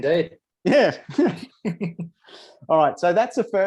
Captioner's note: chuckles